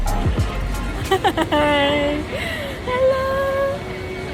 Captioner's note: laughing